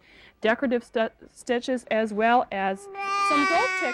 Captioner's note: baby coos loudly